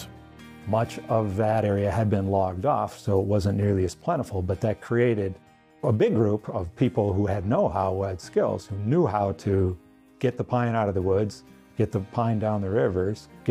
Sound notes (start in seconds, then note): none